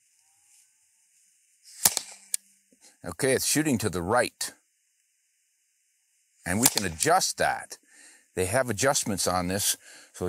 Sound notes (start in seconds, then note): 1.7 shot fires